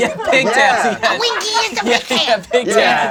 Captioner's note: laughs; screeches